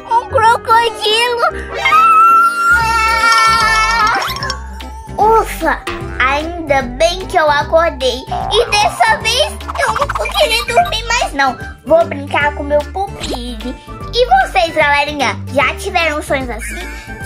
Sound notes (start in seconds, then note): 1.7 scream